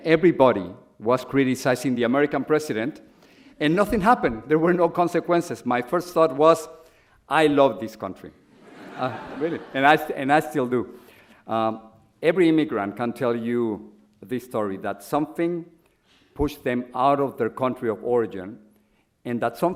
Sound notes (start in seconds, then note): 8.6 audience laughs